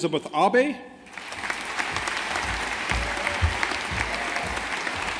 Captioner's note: audience applauding